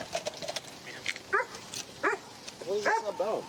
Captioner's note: dog barks